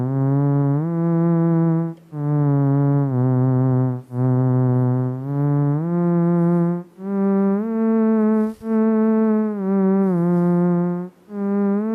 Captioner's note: electronic whirling sounds